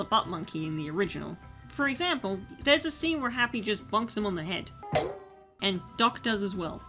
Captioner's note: bonk